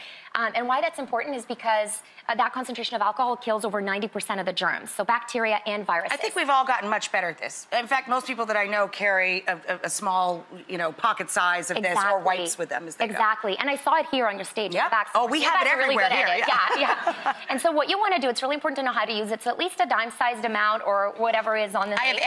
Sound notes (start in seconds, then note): 15.6 laughs